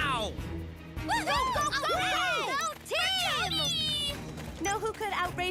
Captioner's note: heroes Cheering